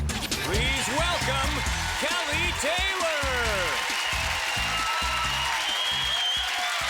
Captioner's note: cheers and applause